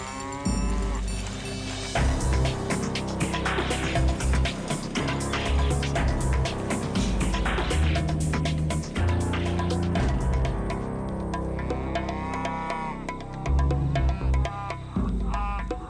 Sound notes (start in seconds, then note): 0.1 cow mooing; 2.1 dramatic music; 11.7 cows mooing